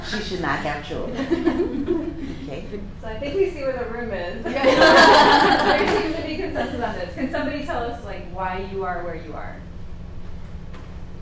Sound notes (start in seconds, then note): 1.0 laughing; 4.4 participants laughing